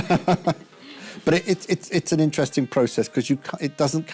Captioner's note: laughs